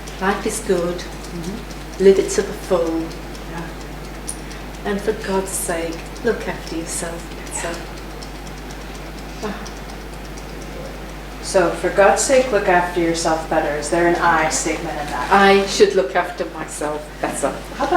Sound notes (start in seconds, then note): 8.5 tapping